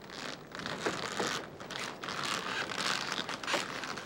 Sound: noise of cart

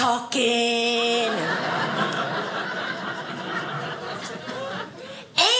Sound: audience laughing

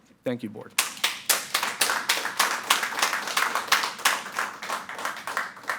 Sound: audience applauding

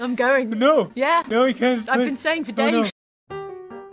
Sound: An-dog babbles and weeps incoherently to an uncaring god

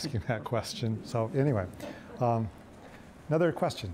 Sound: audience laughing

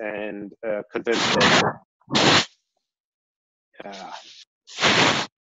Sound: microphone crackling

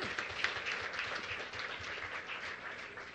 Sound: applause

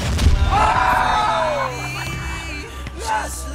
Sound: cheers

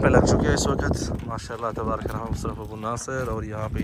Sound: Arabic

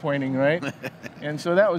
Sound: hosts laughing

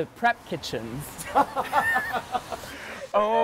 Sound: laughs

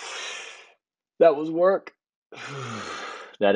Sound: inhale; exhale

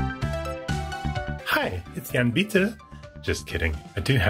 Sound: European accent

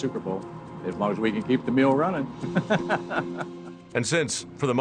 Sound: laughing

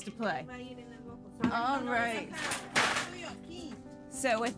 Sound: chatter

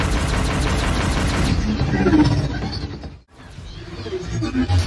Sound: weapons whirring

